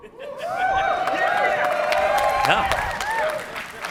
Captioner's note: cheering